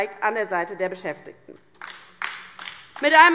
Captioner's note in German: Beifall DIE LINKE